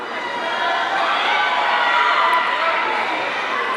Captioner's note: audience cheering